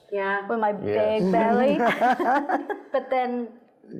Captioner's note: laughing